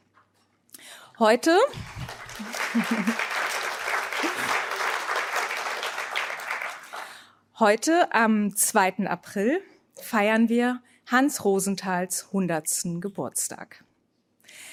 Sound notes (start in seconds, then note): 1.7 applause